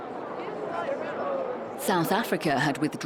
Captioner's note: people chattering